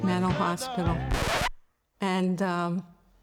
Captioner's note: record Scratch